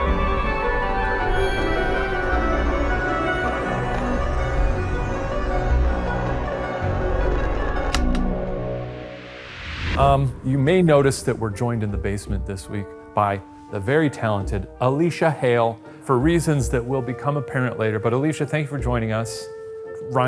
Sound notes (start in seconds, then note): 0.0 mysterious music continues; 7.8 projector clicking; 9.7 screen whooshing